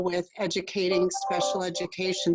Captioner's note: computer tone